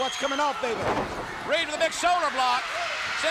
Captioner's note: body thudding